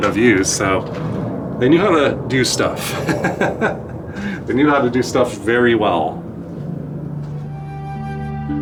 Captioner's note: laughs